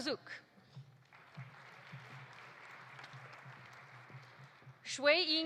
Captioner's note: audience applauding